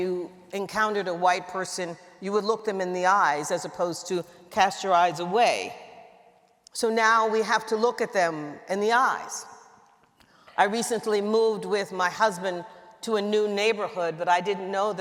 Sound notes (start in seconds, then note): none